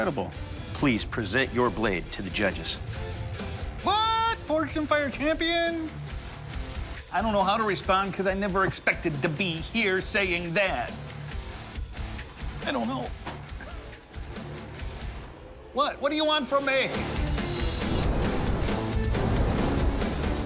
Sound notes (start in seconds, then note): 12.5 laughs; 16.8 symphonic metal music